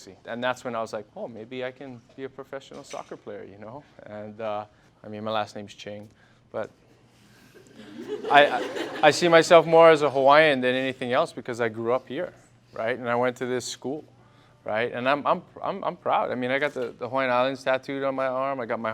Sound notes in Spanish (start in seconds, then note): 7.6 risas